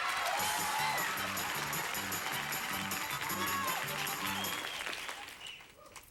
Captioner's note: audience applauding